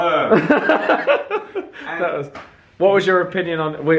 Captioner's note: laughing